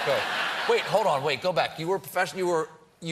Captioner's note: laughter